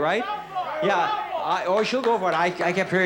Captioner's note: man yells in audience